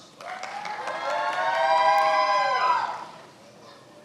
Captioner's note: many applauding